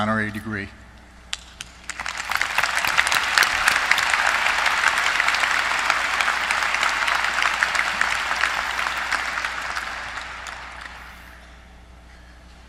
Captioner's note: applause